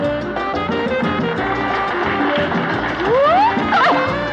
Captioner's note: applause; whooping, Laughing